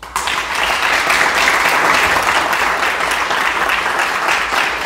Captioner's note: audience clapping